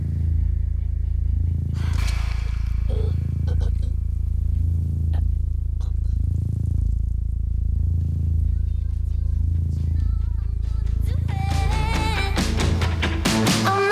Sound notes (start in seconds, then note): 2.8 Ezold grunts; 11.1 upbeat music